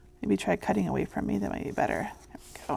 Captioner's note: none